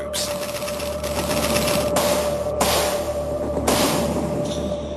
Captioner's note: guns blasting